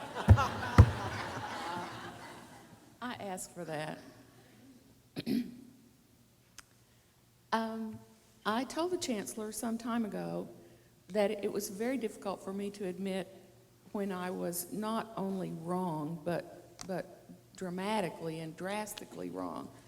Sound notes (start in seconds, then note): 0.1 laughing; 5.2 clears throat